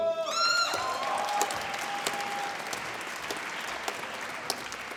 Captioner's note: applause